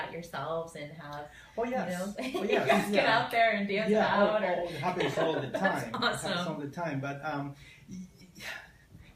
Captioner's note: laughter